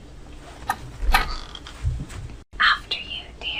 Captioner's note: door opening